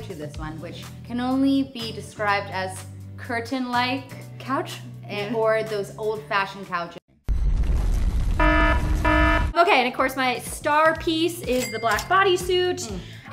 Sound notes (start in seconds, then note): 8.4 alarm sounds